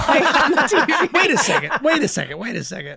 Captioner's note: men laughing